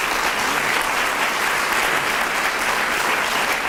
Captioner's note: applause